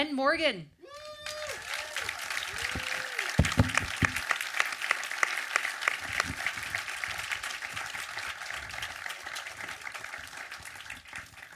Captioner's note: audience cheer and applause